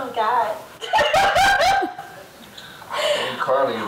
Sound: laughs

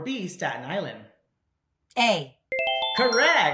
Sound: winning ring

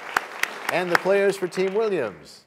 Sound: applause

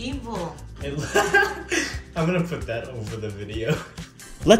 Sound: laugh

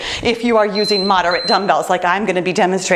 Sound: timer beeps

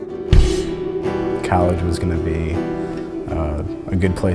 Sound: voiceover

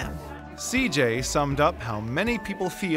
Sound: voiceover

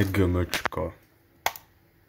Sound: click

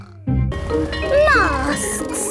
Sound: bell ringing

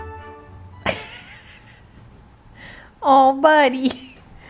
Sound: laughing

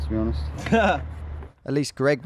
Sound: laughing

